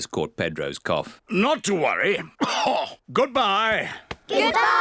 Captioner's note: coughs